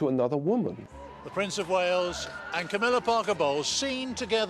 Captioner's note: voiceover